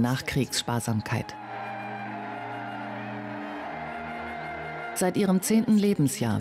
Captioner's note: gentle music; crowd cheering